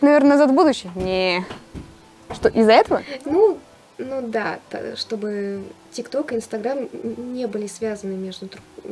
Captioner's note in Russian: где-то стучится кот